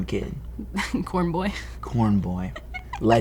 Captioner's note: laughing